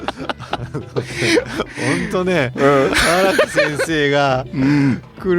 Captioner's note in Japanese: 笑い